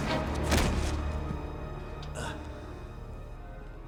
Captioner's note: Gammon thuds